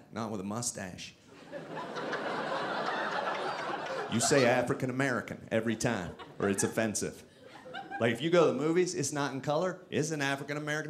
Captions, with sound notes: "not with a mustache. (audience laughing) "You say African-American "every time or it's offensive. "Like, if you go to the "movies it's not in color, "it's an African-American